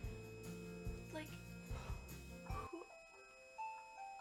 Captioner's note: phone alarm goes off